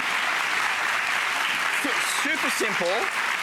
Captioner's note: applause